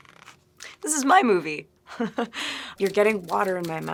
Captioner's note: laughing